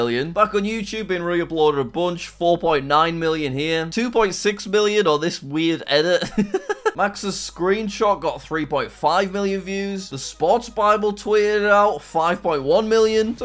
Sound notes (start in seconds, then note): 6.3 laughs